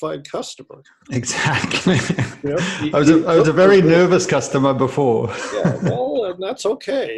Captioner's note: laughs